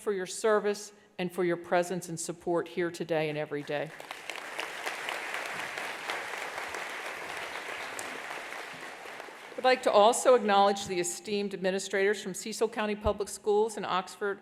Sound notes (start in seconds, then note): 3.9 attendees applauding